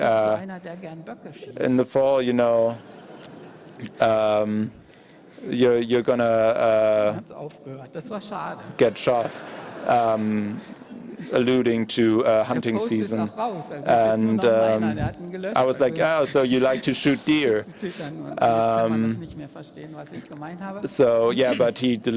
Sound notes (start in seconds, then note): 8.8 laughter